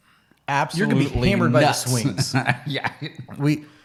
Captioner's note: laughing